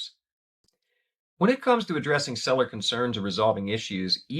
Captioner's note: voiceover